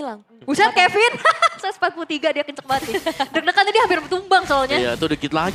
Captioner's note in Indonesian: tertawa